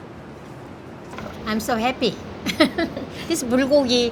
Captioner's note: laughs